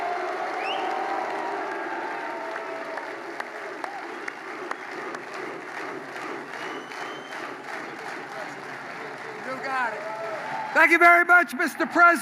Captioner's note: applause